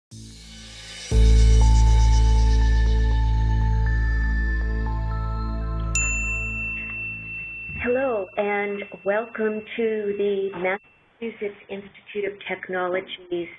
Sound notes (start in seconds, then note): 1.2 intriguing music; 5.9 bell dings